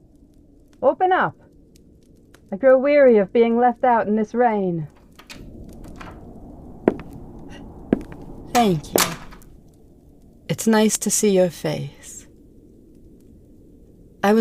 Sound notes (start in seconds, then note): 6.8 door opens, footsteps enter